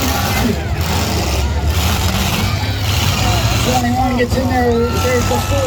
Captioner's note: engine noise, crowd noise